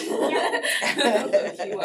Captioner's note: laughter